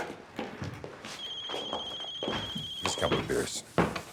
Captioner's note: phone ringing